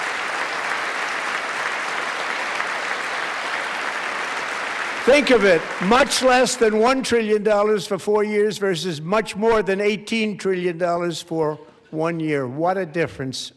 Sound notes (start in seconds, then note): 2.7 applause